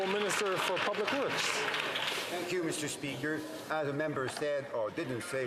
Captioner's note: some Applause